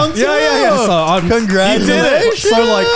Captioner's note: clapping